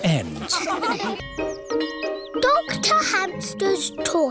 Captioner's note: bell tolling